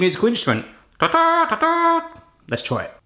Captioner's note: simulates bugle